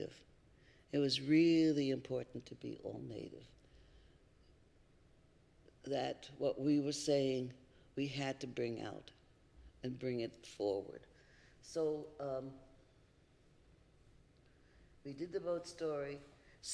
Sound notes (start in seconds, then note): none